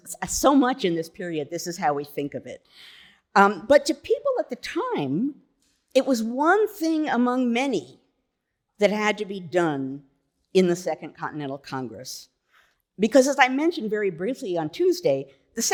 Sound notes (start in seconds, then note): none